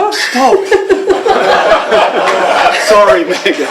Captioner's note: laughter